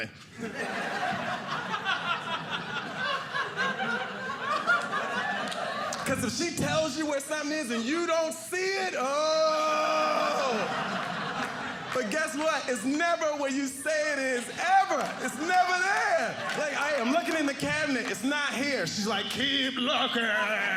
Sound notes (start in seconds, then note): 0.1 audience laughing; 9.9 audience laughing